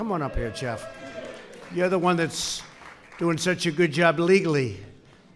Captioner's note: applause